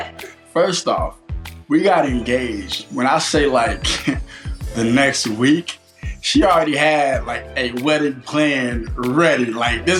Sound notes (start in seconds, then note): 3.8 chuckles